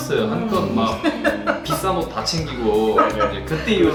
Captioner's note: the director bust out laughing